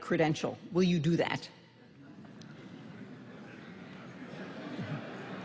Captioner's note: laughter